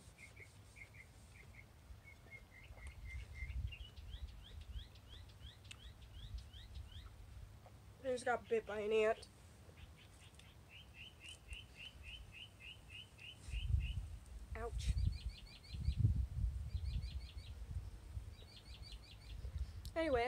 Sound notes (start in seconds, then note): 0.0 birds chirping, rubbing noise; 2.9 birds chirping; 9.6 birds chirping; 15.6 birds chirping